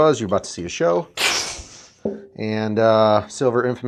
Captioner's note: air diffusing